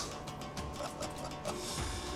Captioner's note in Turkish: Gülüyor